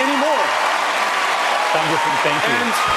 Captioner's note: crowd cheering